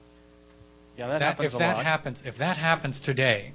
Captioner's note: male Voice